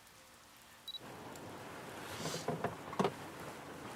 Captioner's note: beeping